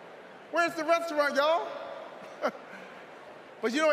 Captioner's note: chuckles